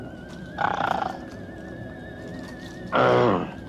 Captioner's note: growls